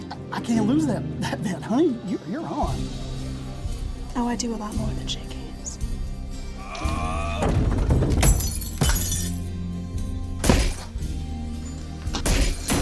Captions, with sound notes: - I-I can't lose that-that bet, honey, you-you're on. - Oh, I do a lot more than shake hands. (mellow melodic music) (glass shattering) (blows thudding)